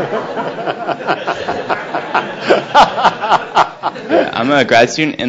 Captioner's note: laughs loudly; audience laughs